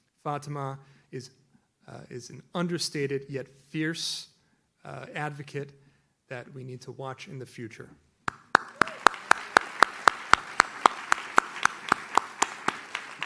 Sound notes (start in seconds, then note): 8.2 audience claps